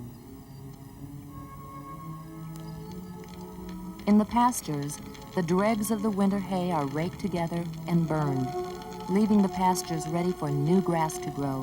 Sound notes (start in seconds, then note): 1.2 orchestral music; 3.0 fire crackling